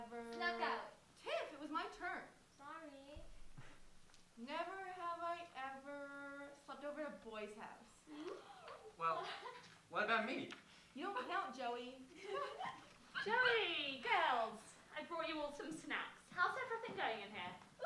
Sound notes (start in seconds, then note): 12.1 giggling